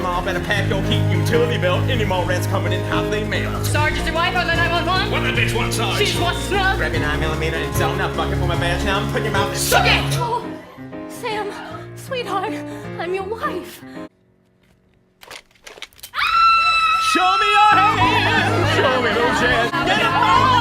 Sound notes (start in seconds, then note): 11.5 Charlotte pleading; 16.1 screams